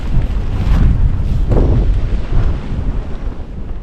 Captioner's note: wind